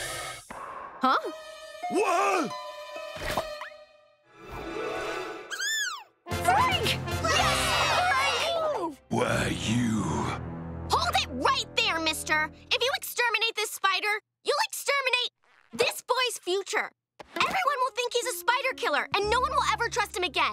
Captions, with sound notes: Huh? What? [squealing] Frank! [all cheering] Why you... Hold it right there, mister! If you exterminate this spider, you'll exterminate this boy's future. Everyone will think he's a spider killer and no one will ever trust him again.